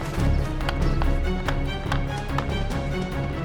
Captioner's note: gunfire